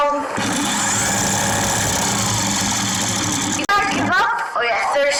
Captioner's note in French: ventilateur vrombissant